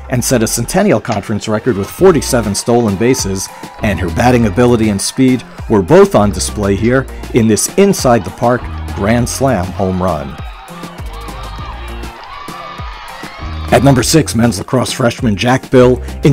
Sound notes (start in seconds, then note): 11.4 audience cheering